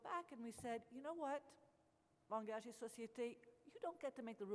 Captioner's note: speaks French